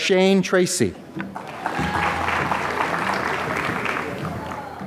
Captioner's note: applause